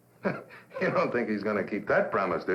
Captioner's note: laughing